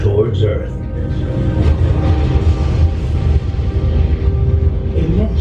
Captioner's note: explosion